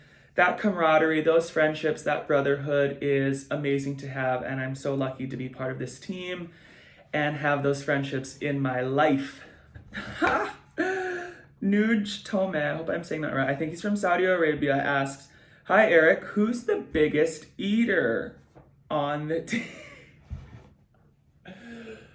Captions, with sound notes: that camaraderie, those friendships, that brotherhood is amazing to have and I'm so lucky to be part of this team and have those friendships in my life. (chuckles) Nujtome. I hope I'm saying that right. I think he's from Saudi Arabia. Asks, "Hi, Erik! Who's the biggest eater on the team?" (giggles)